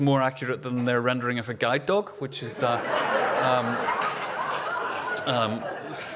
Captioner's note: laughter